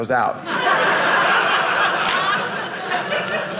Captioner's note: audience laughing